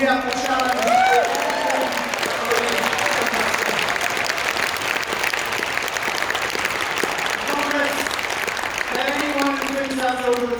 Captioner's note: applause